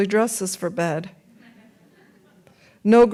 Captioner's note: audience laughs